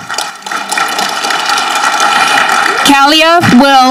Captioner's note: audience clapping